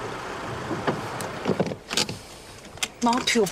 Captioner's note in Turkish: El freni çekme sesi